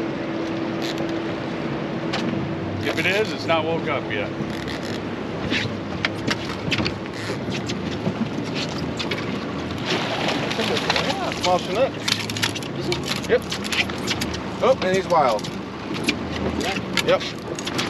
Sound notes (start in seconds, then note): 4.4 reel cranking; 10.5 fish splashing